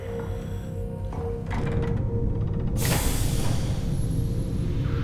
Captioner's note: hatch opens, air hisses